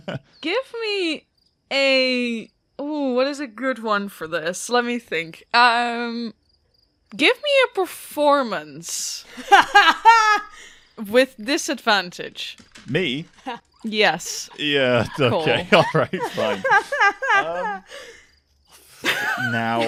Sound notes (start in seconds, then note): 0.0 laughter; 9.2 laughs; 13.8 laughing; 18.6 laughter; 19.0 loses it